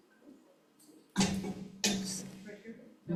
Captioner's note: white cane clunks